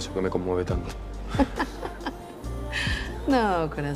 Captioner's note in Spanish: Ríe